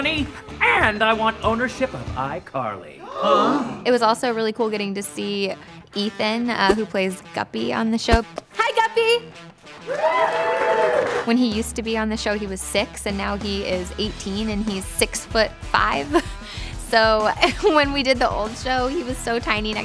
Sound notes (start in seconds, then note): 3.0 gasping